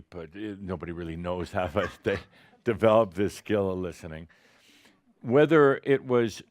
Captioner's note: a few chuckles